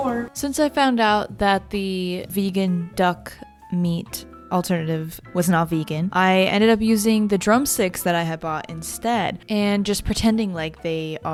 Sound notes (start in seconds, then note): none